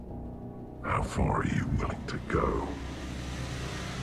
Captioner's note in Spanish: Con voz profunda